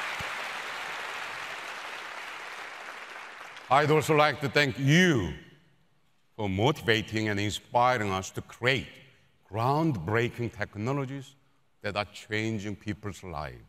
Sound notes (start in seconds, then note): 3.6 applause